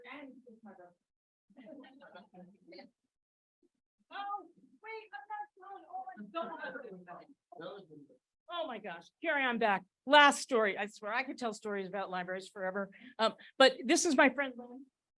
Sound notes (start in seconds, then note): 6.5 people chattering